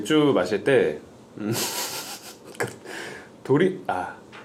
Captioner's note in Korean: 맥주 생각에 새어나오는 웃음